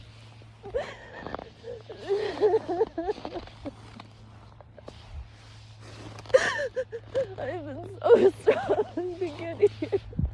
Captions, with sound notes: *sobs viscerally* *snow crunches underfoot* *sobs* I've been so strong to get here.